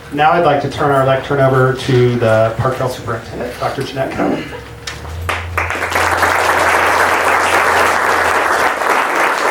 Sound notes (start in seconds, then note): 5.2 audience claps